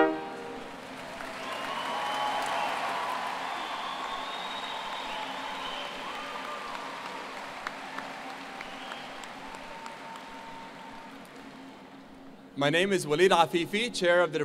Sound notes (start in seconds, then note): 1.5 applause